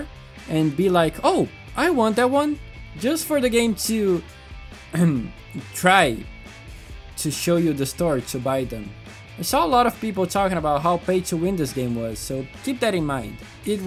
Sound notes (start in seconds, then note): 5.0 ahem